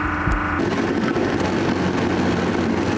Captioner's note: rattling